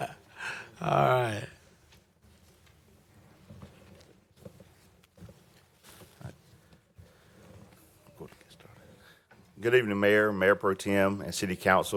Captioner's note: laughter